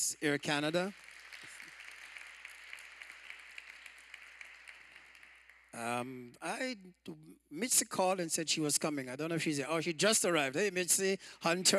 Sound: applause

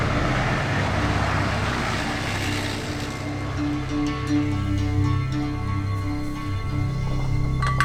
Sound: claps

